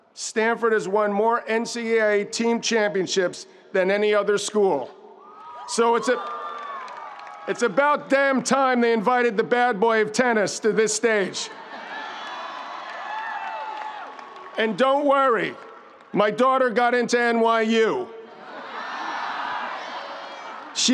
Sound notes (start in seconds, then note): 11.6 audience cheering; 11.8 audience applauding; 18.3 audience laughs